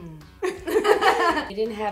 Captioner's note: laughs